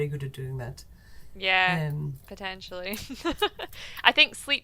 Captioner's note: laughs